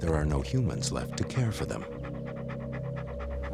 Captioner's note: panting